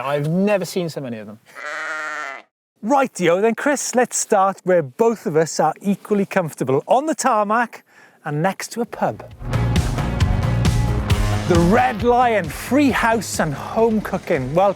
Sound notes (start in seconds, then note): 1.5 sheep bleats; 9.4 electronic rock music